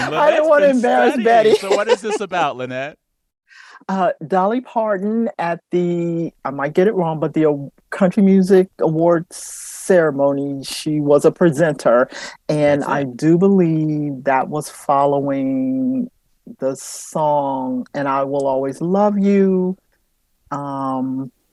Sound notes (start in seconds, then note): 0.0 laughter